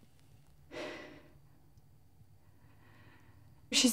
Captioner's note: sighs